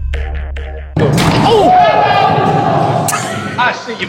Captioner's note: dunk sound; cheers